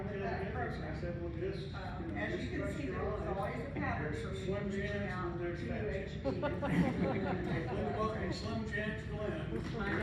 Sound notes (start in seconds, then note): 6.4 laughing